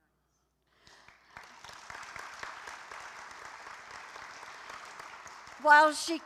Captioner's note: applause